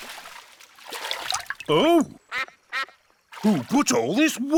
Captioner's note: quacks